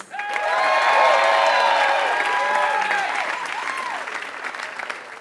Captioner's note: applause